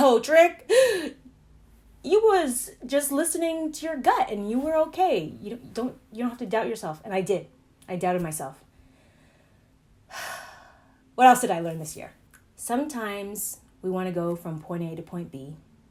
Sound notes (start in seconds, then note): 10.1 sighs